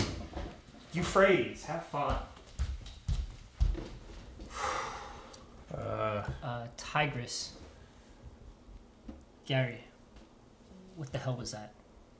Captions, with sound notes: Euphrates. Have fun. [ FOOTSTEPS ] [ GROANS ] Uh. Tigris. Gary, what the hell was that?